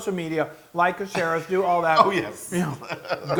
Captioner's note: laugh